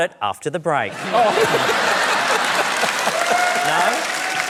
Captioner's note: laughter, applause